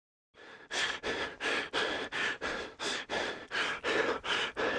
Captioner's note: accelerated breathing